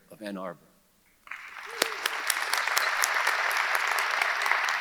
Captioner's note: audience applauding